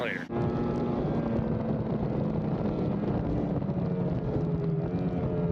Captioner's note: engine roaring